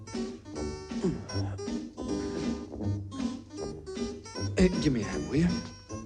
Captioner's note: grunts